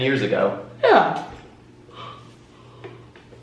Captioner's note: yawns